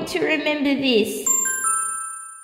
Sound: ding!

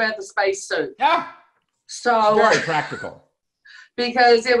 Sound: chuckles

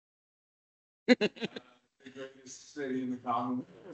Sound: laughs

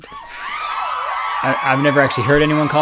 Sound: audience cheering

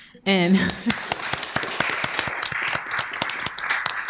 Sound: applause

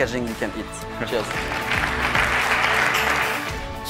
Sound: audience applauding

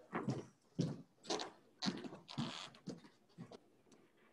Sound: footsteps clanging

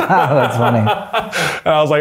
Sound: both laughing

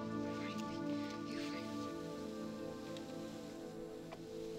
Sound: Brigit muttering

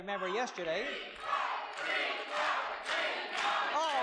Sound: crowd chants

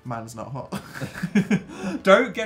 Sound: laughs

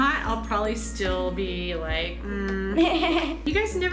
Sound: giggles

